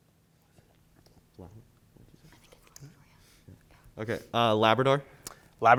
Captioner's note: group whispering